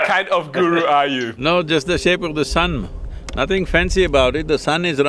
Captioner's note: laughs